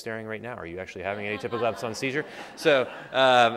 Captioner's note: laughter